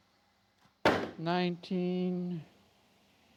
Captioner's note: crate hitting floor